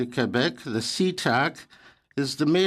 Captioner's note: speaking French